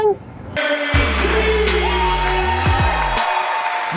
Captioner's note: voiceover; audience cheering; upbeat hip hop music